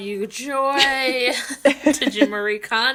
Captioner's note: laughing